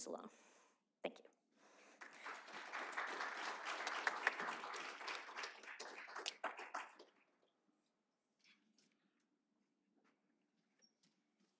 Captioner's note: applause